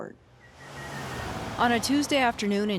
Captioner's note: car engine roaring